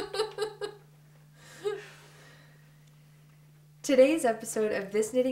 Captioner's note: laughter